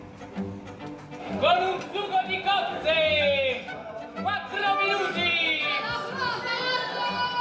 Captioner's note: shouting in Italian